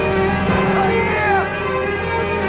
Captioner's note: screams